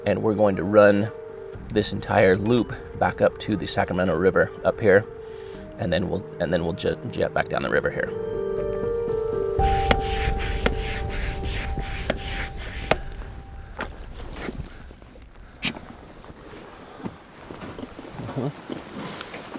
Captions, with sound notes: And we're going to run this entire loop back up to the Sacramento River up here. And then we'll jet back down the river here. (pump creaking)